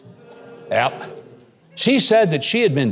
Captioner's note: audience booing